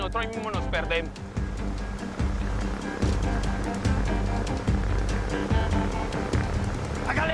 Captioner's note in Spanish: Ruido de la avioneta